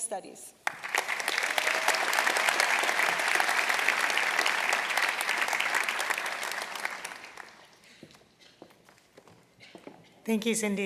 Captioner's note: applause